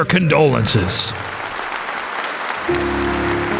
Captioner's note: crowd claps; gentle music